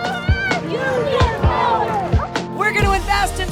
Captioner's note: crowd